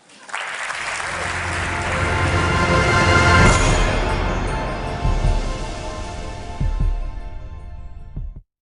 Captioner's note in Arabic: تصفيق